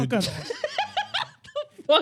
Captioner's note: laughing